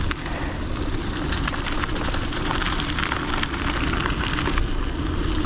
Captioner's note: bike tires rattling